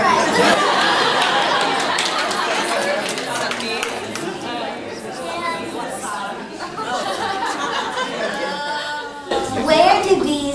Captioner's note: laughter